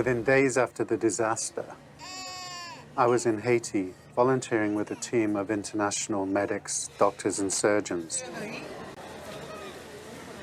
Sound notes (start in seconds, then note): 2.0 baby cries